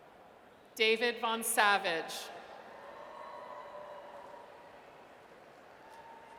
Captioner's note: audience cheers